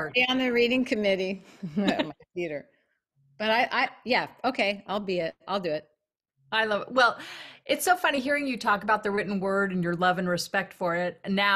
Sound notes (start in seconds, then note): 1.6 laughs